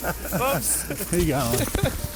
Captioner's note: group laughing